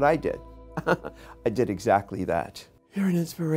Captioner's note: chuckling